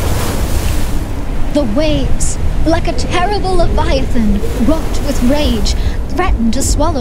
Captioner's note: waves crashing